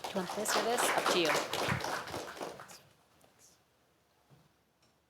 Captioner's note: applause